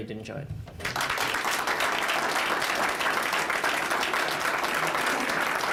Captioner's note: applause